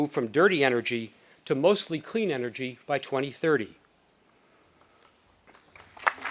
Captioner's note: audience applauding